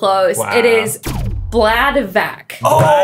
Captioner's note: scores pulsing